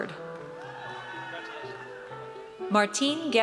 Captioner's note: audience cheers